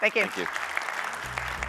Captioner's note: applause